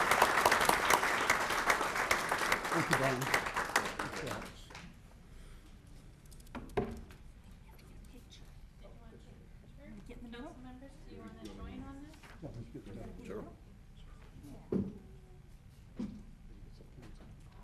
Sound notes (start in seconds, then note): 9.3 applause